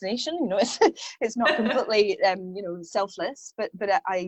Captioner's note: laughs